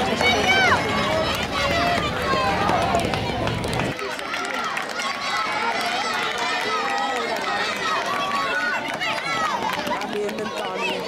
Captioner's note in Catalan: La gent anima